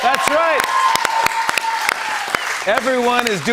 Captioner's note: cheers and applause